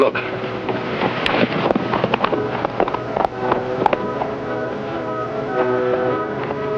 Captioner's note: horse trotting; pensive orchestral music